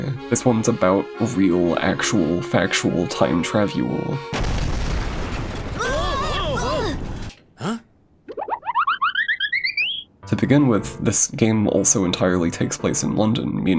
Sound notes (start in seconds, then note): 4.4 loud boom; 8.3 cartoonish running noise